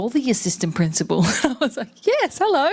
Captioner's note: laughs